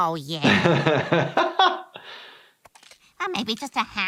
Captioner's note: he laughs